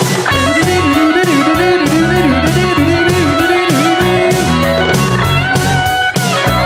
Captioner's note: rock music continues; humming